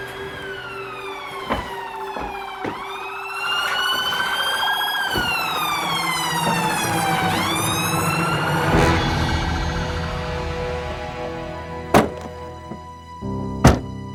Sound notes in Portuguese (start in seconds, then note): 1.8 som de sirenes de polícia